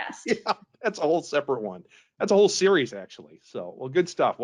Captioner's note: laughs